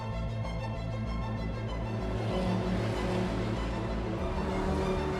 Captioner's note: car engines roaring